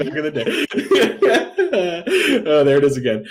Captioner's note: laughter